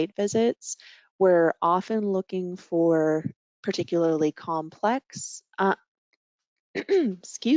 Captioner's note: clearing throat